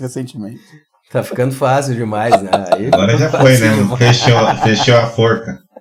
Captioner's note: laughs